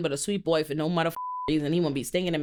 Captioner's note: beep